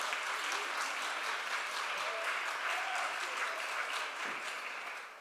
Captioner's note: applause